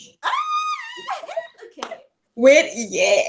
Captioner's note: squeals